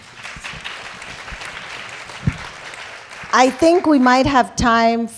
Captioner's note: applause